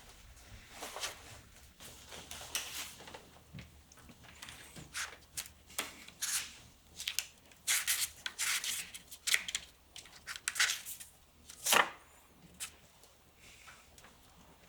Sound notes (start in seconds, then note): 7.6 paper rustling